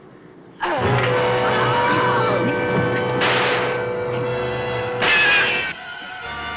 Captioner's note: scream - gunshots